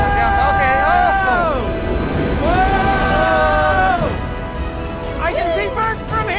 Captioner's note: screaming